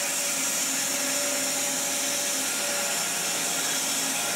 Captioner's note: saw whirring